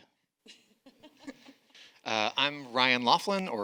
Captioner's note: panel laughing